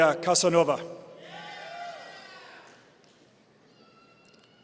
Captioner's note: audience cheering